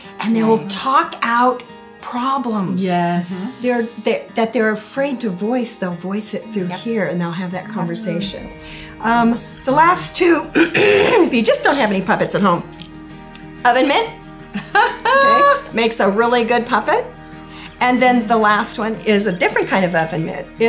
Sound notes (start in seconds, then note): 10.5 clears throat; 14.5 laughing